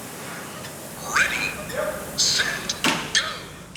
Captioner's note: whistling sound